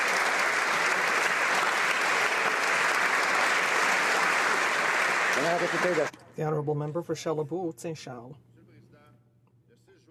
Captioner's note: applause